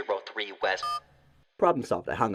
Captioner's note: digital beep